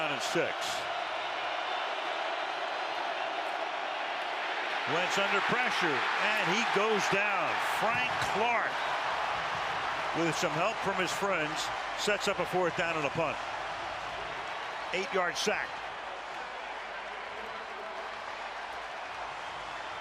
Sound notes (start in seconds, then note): 14.1 cheering; 16.5 pa announcement